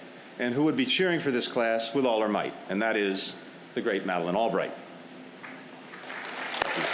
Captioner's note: applause